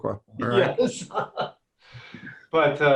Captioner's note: laughing